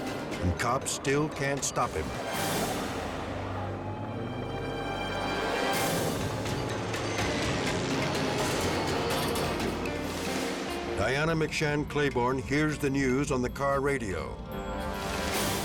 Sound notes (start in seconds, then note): 7.2 helicopter humming